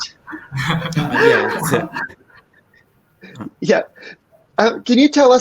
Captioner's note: people chuckle